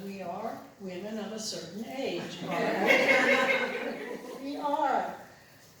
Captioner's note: laughter